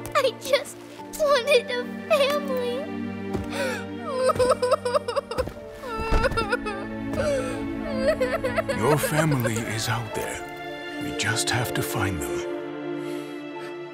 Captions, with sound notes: I just wanted... ... a family. *Heavy sobbing* Your family is out there. We just have to find them.